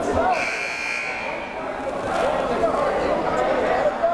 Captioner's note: timer buzzes